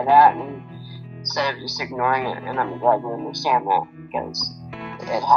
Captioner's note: speaking quietly